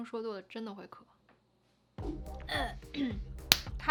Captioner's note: claps; throat clearing